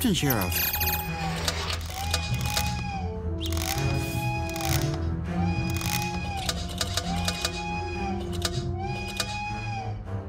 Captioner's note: machinery clicking